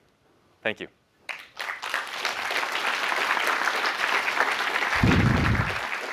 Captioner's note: applause